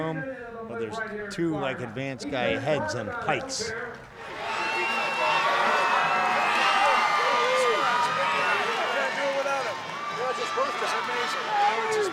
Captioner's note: crowd cheering in background